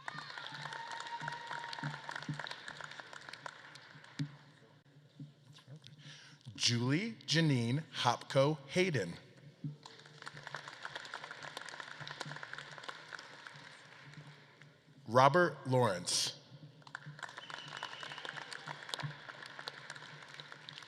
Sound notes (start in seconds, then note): 0.0 audience claps and cheers; 9.6 audience claps; 16.6 audience claps